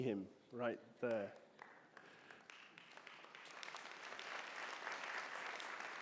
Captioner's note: audience applauding